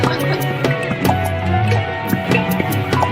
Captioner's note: laughs